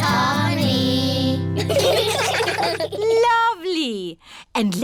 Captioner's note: children giggling